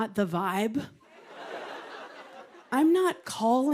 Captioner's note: laughter